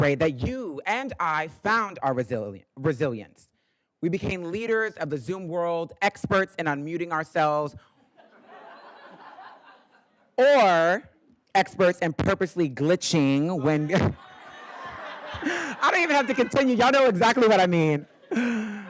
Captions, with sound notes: that you and I found our resilience. We became leaders of the Zoom world, experts in unmuting ourselves. (attendees laughing) Or experts in purposely glitching when... (laughs) I don't even have to continue, y'all know exactly what I mean.